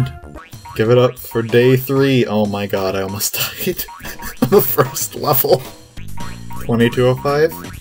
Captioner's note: laughing